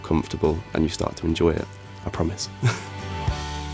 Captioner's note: laughing